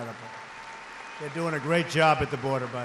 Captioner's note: applause